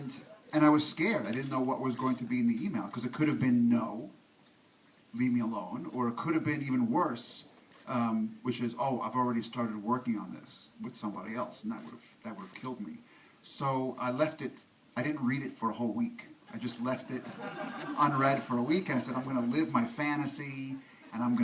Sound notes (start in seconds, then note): 17.0 audience laughs